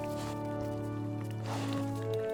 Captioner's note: sniffs